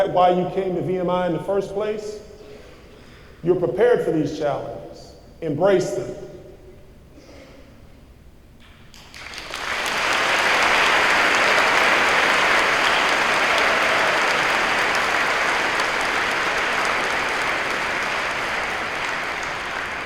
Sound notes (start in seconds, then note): 8.9 applause